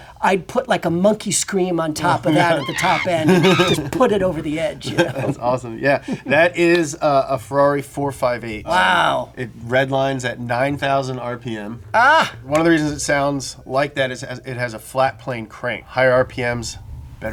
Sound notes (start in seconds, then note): 2.2 monkey screams; 5.1 laughs